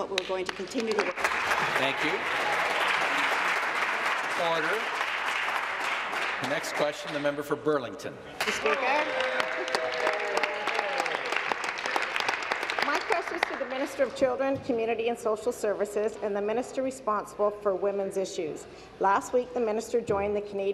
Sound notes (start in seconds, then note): 5.3 applause; 11.5 applause; 12.5 cheers